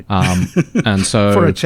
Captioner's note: laughing